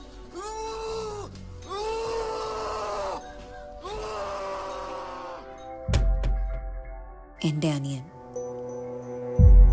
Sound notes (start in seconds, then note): 1.6 cry intensifies